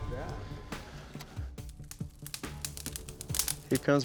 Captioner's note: flames sizzling